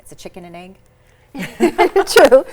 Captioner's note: all laugh